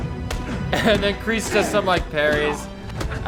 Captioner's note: laughs